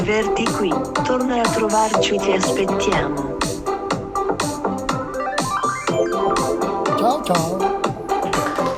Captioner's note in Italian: Applauso